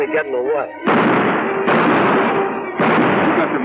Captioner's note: gunshots